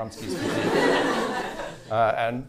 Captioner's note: laughter